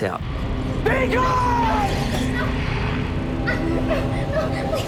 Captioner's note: whimpering